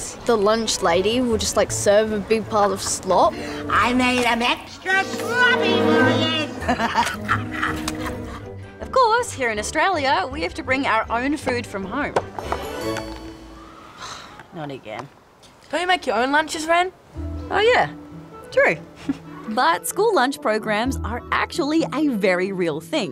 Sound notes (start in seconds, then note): 6.0 laughs; 13.8 sighs; 18.5 chuckles